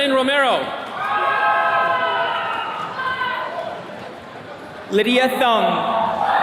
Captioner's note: attendees cheering